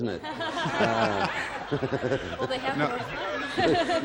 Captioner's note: all laugh